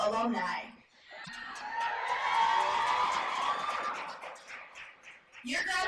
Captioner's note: cheers and applause